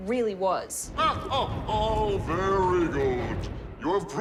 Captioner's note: laughs